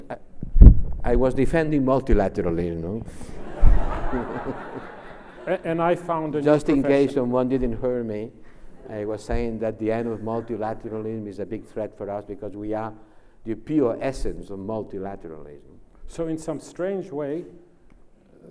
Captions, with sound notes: - I was defending multilaterally you know. (laughs) Just in case one didn't her me I was saying that the end of multilateralism is a big threat for us because we are the pure essence of multilateralism. - So in some strange way,